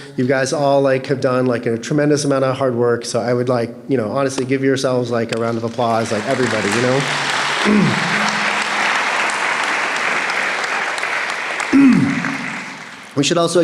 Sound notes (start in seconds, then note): 7.9 applause